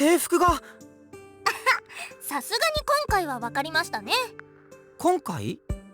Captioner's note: chuckle